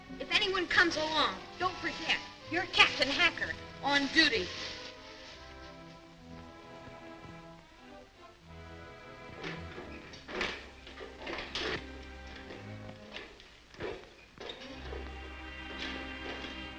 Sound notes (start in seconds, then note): 9.3 Volkites clang; 13.7 metal scrapes